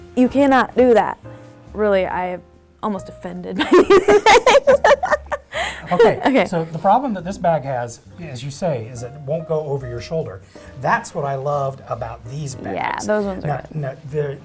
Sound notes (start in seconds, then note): 3.6 laughter